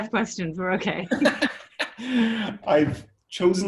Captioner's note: both laughing